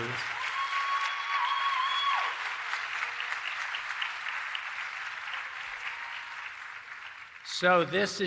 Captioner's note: cheering and Applause